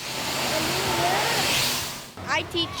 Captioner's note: air hose whooshes